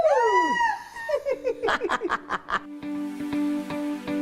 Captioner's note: both laughing